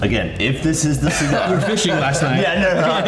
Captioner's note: all laughing